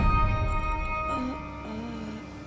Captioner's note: groaning